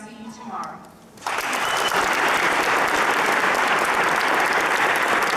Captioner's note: applause